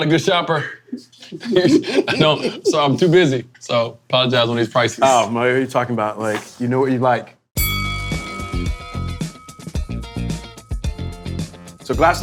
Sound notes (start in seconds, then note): 1.1 laughing; 7.6 bell dinging; 7.6 chill instrumental music